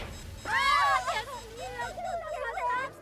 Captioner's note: beeping; screaming